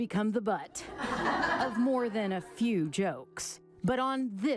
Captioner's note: group laughs